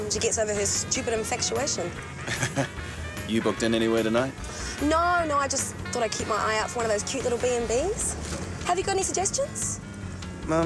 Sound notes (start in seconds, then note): 2.2 Graham chuckles